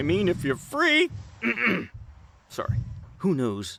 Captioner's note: clears throat